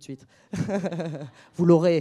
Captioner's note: laughs